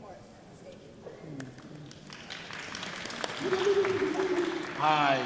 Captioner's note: audience clapping